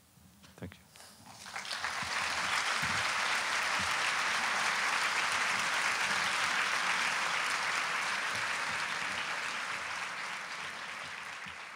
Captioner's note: applause